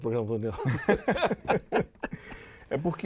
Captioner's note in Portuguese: Risadas